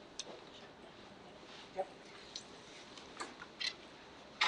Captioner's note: trustees chattering